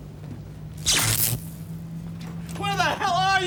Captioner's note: buzzing